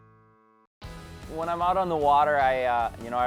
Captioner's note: voiceover